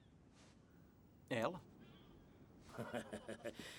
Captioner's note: chuckling